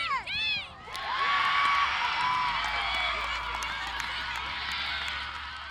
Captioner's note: crowd cheering